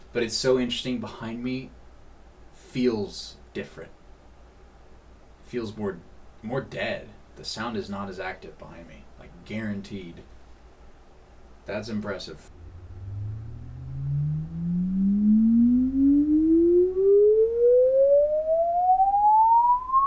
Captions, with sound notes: but it's so interesting behind me, feels different. Feels more dead, the sound is not as active behind me, like guaranteed, that's impressive. (frequency sweep)